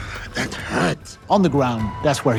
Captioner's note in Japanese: うめく